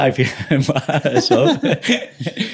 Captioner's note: laughing